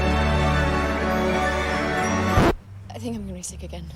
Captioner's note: record scratches, music stops